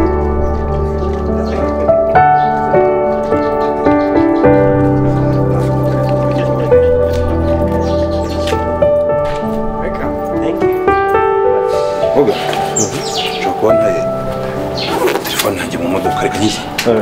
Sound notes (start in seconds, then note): 2.7 laughing and conversing